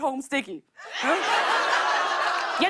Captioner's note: laughter